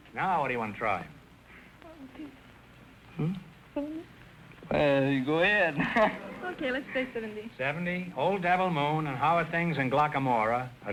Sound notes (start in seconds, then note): 1.6 whispering